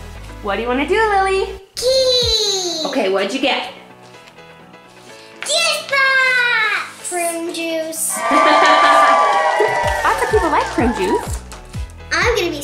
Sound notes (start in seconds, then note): 8.1 cheering